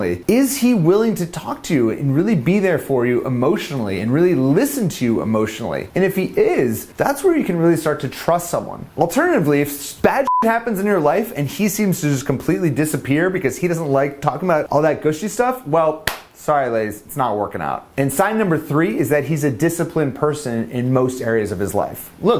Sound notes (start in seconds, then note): 10.2 beep; 16.0 claps